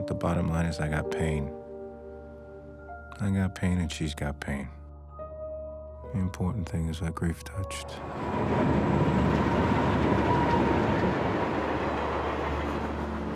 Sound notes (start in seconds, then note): 7.7 train rumbling